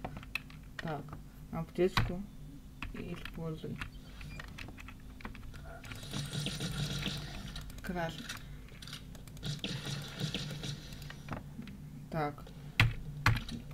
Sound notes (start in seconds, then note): 5.6 shots